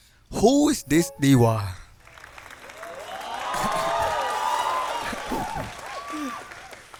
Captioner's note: cheers